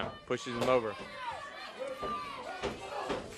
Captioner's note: crowd chatter